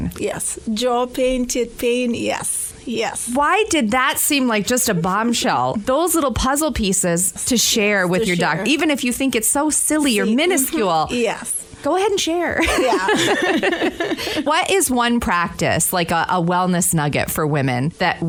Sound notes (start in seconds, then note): 12.6 laughter